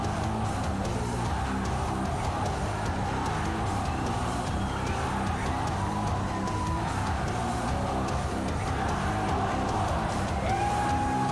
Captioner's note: crowd cheering